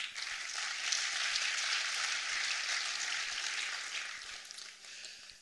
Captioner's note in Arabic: تصفيق